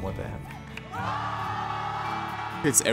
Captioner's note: cheering